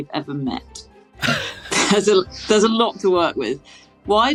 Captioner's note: snickers